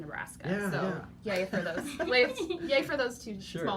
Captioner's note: laughing